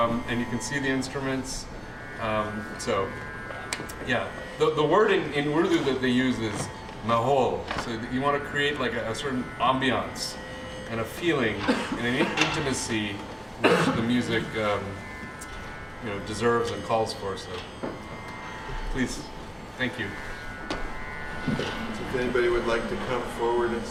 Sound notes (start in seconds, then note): 6.9 non-english